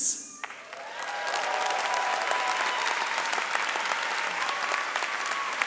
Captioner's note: audience cheering and clapping